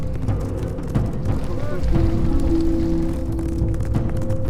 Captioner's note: Chinese language